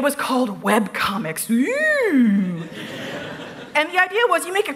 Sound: laughter

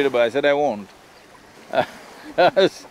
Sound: laughs

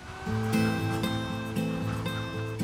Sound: construction buzzing; gentle music

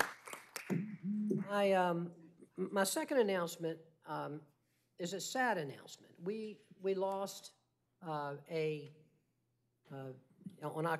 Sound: applause

